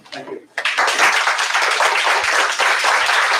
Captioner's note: applause